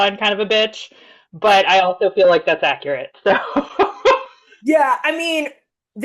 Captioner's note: laughs